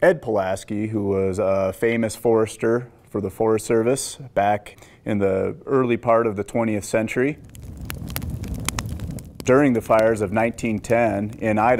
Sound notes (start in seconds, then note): 6.3 fire crackling